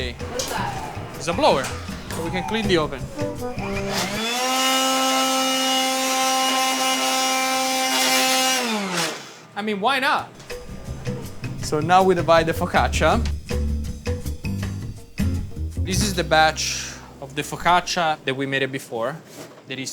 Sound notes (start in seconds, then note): 4.4 blower whirring; 13.6 gentle music